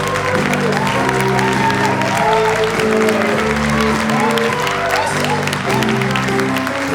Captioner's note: audience continues to cheer and applaud